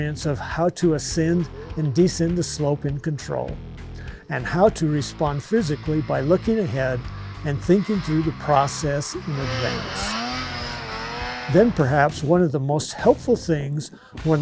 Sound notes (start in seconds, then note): 9.9 sled engine roaring